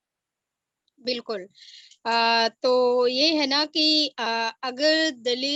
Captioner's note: speaks foreign language